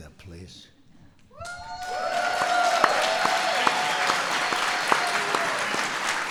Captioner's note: applause